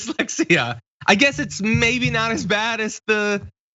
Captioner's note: laugh